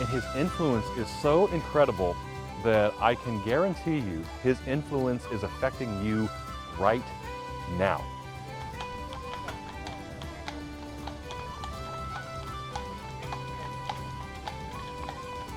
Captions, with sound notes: And his influence is so incredible that I can guarantee you his influence is affecting you right now. (bright rousing music) (hooves clopping)